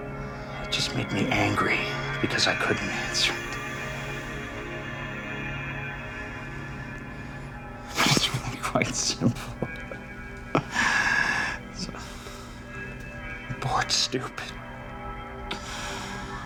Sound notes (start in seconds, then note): 7.8 laughing